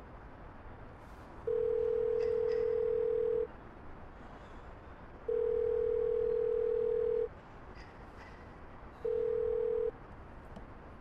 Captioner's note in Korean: 수신음 소리